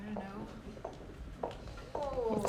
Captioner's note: footsteps approaching